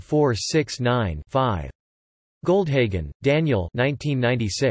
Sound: in German

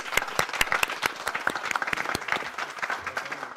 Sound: applause

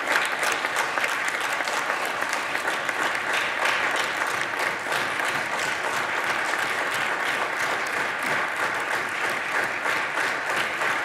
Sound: applause

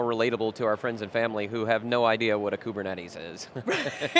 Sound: laughs

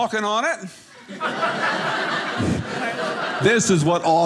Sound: audience laughing

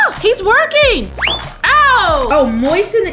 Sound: zing

